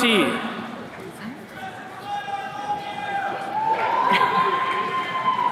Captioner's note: attendees cheering